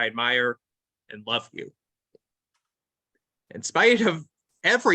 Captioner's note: silence